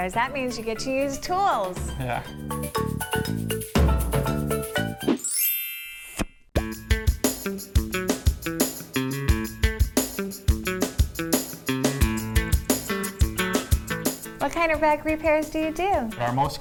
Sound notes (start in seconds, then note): 2.9 lively island music; 5.2 popping sound; 6.5 bluesy rock music